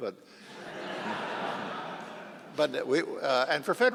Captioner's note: audience laughing